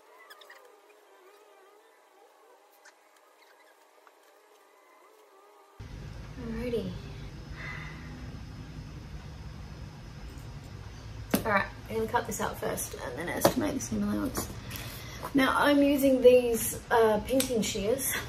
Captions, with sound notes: Alrighty. [sighs] Alright. [pen hits floor] I'm going to cut this out first and then estimate the seam allowance. Now, I'm using these, uh, pinking shears, [scissors snap shut]